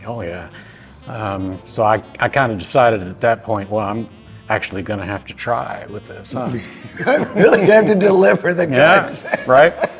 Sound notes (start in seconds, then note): 6.4 chuckling; 9.8 laughing